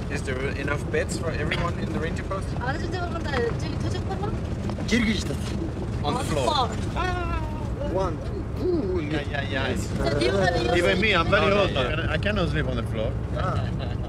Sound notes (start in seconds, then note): 3.0 woman speaks Mongolian; 5.1 man speaks in Mongolian